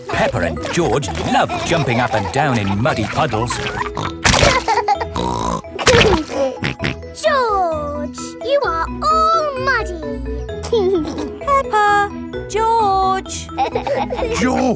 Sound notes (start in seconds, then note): 4.4 laughs and snorts; 10.6 giggling